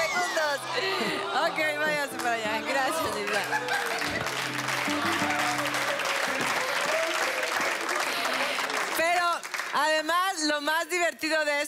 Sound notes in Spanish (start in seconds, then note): 6.9 Aplausos